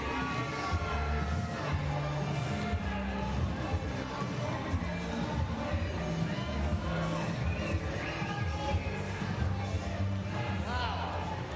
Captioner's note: cheering and Applause